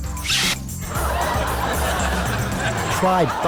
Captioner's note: audience laughs